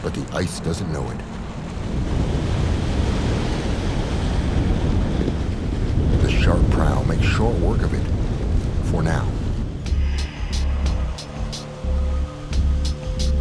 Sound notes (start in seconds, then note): 2.1 ice rumbling; 10.0 low, foreboding music